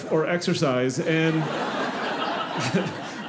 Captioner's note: audience laughing